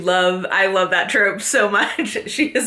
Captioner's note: laughs